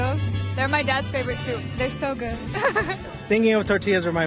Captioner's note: laughs